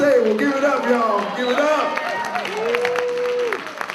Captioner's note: applause